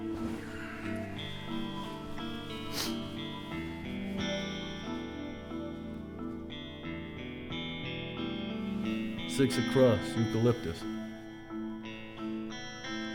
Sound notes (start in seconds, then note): none